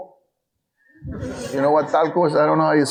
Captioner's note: audience laughing